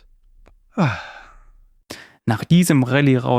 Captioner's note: sighs